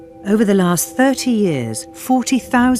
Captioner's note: voiceover